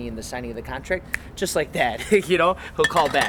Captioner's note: finger snap